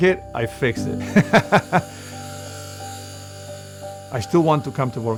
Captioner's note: laughs